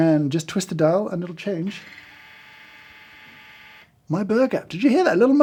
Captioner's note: coffee grinder whirring